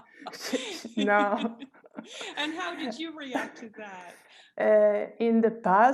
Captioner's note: laughter